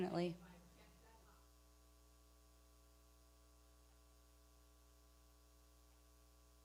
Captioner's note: speaking away from mic